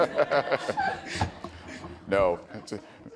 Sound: laughs

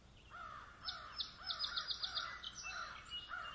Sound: birds chirping

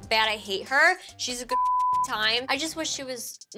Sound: beep

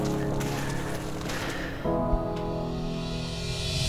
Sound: footsteps crunching in snow; heavy exhale; impending tension sound

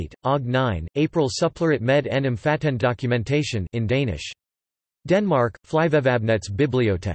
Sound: in Danish

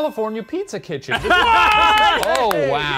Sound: laughing

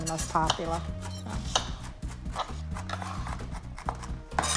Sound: metal scraping on wood

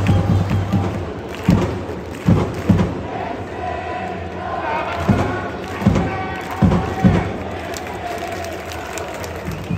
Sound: clap, clap, clap clap

